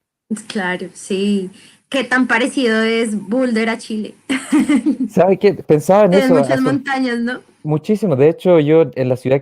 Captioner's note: laughs